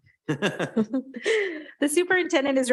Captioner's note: board members and attendees chuckle